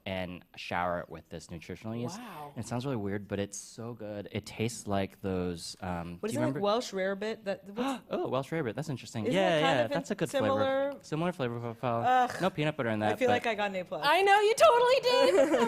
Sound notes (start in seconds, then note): 7.1 gasps; 15.2 chuckles